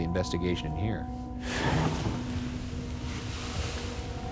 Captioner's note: knock thuds